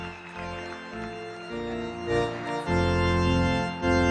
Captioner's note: cheering and applause